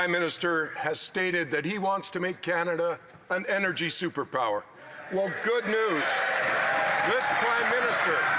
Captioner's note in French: voix de l'interprète